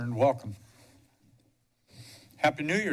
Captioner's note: pause